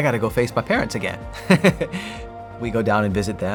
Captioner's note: laughs